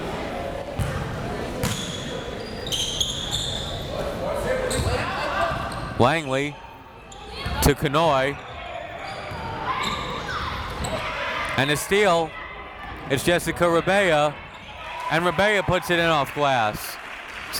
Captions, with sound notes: (crowd members shouting) Langley to Kanhoye. (crowd members shouting) And a steal. It's Jessica Rabaa. And Rabaa puts it in off glass.